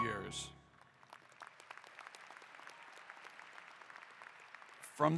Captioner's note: applause